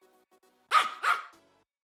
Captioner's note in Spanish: Ladrido